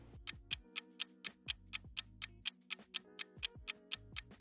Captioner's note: clock ticking